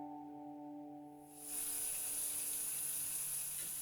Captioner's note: water running